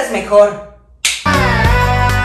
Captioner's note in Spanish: Casquea los dedos